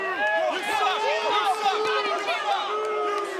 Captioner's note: crowd chatter